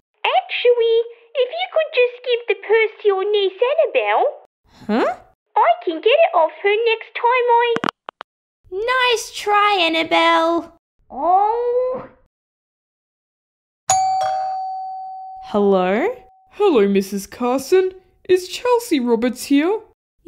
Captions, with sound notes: Actually, if you could just give the purse to your niece, Annabelle... Huh? ...I can get it off her next time I... (Click!) Nice try Annabelle! Owww! (Doorbell) Hello? Hello Mrs Carson, is Chelsea Roberts here?